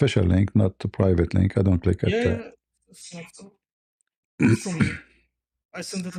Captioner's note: cough and clears throat